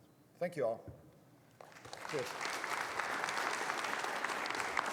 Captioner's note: audience applauding